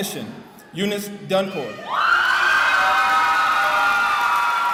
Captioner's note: cheering